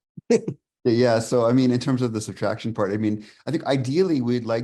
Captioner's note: laughs